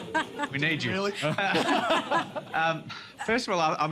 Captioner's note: laughter; laughs